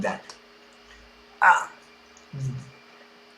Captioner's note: argh